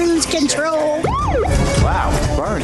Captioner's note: siren blaring